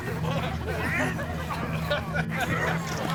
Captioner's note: people laughing